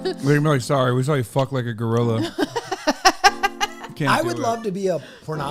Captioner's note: cackles